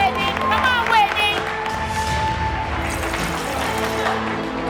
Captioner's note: cheering